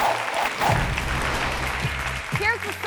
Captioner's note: audience cheering; bright music continues